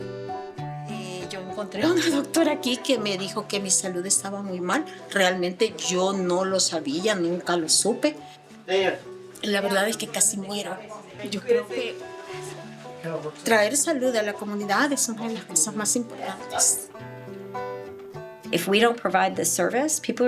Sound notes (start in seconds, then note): 1.4 woman speaking in Spanish